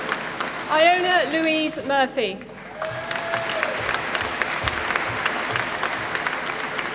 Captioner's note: applause